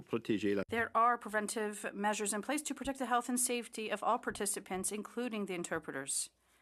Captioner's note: speaking French